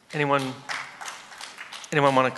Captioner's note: applause